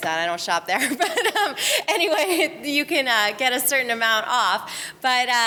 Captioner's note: laughs